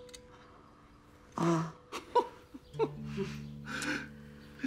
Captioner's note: laughter